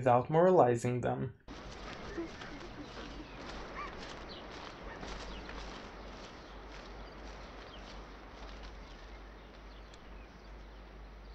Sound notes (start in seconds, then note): 3.1 footsteps on grass and birds chirping